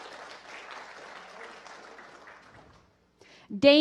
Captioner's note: applause